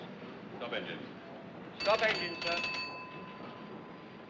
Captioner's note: bell Ringing